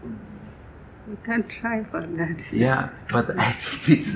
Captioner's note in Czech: smích